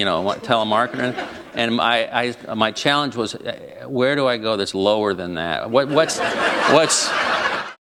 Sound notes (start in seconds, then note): 1.0 chuckle; 5.8 laughter